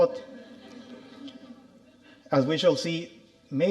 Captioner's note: audience laughing